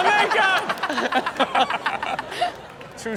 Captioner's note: hosts laughing